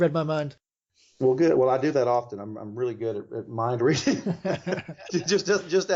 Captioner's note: laughs